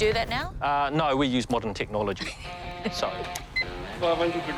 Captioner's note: chuckles